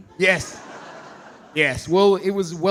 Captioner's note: audience laughing